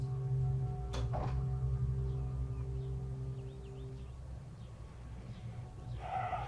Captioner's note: ominous music; birds chirp; sighs